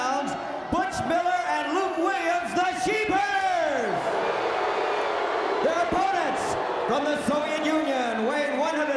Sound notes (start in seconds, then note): 4.0 crowd chatter